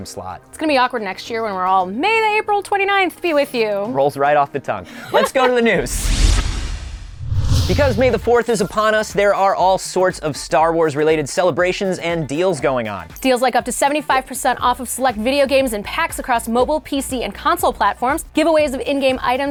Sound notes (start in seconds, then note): 5.8 whoosh